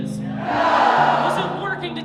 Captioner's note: crowd